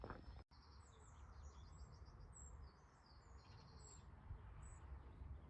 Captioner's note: birds singing